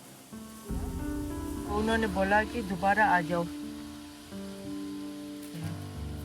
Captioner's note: person speaks foreign language; speaks foreign language